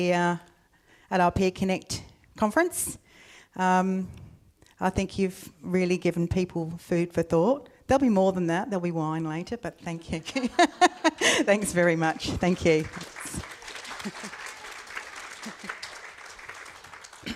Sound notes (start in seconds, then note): 13.4 laughs; 13.5 audience applauds